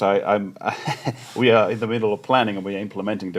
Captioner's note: chuckles